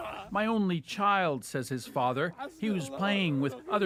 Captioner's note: crying